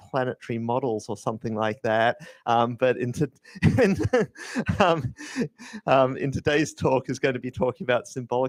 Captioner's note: laughs